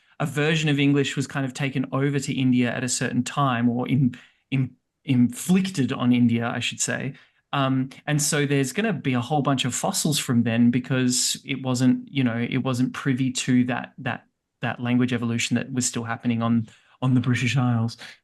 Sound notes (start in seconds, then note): none